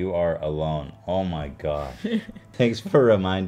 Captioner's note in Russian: смеется